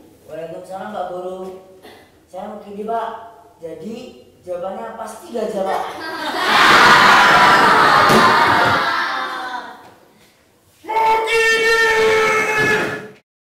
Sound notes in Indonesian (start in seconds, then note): 5.7 tertawa keras